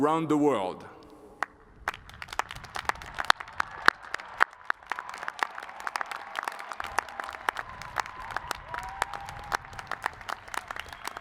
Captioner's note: cheers and applause